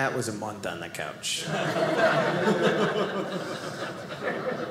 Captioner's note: audience laughing